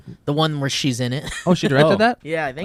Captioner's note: laughs